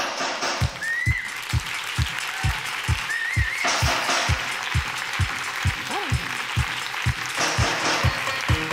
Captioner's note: applause